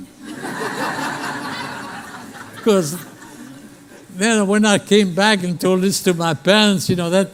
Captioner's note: laughter